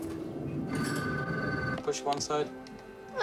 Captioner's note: phone Rings